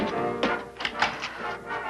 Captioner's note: door opens; faint jazz music